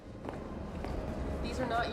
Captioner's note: footsteps tapping